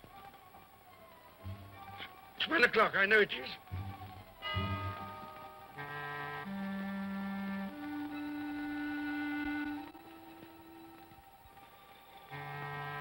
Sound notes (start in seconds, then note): 1.3 tense music; 4.3 clock chimes; 5.6 tense ominous music